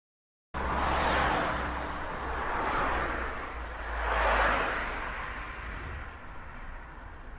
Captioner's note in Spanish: Sonido de autos circulando en carretera a alta velocidad